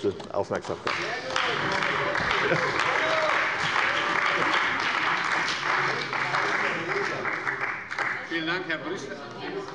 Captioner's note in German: Beifall bei der CDU und dem BÜNDNIS 90/DIE GRÜNEN